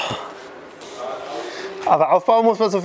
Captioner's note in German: Seufzen